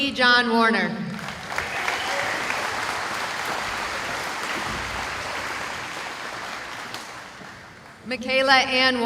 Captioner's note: applause